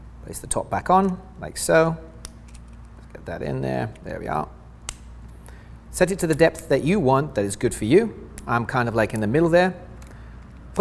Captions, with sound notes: Place the top back on, like so. Let's get that in there. There we are. (lancet snaps) Set it to the depth that you want that is good for you. I'm kind of like in the middle there.